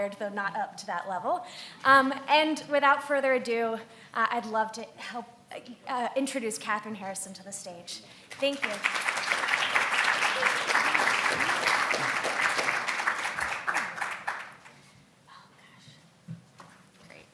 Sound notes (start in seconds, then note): 8.3 audience applaud